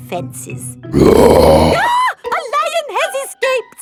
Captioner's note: roars; screams